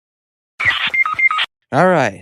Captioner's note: fortnite knocked sound